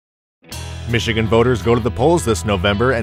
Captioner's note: voiceover